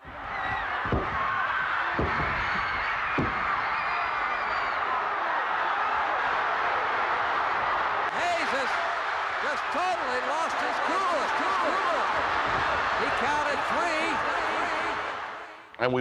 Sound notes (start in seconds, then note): 0.4 fists thudding; 1.1 crowd cheering